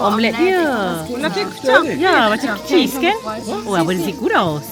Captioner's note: speaking German